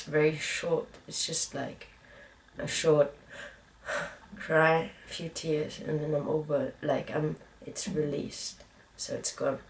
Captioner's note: exhales